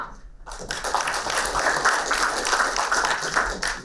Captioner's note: applauding